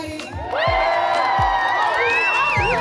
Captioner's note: crowd cheers